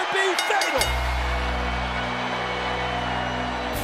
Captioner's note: bell rings